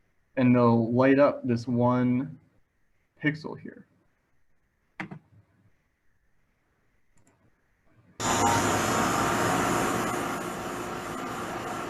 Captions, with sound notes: and they'll light up this one pixel here. (machine whirring)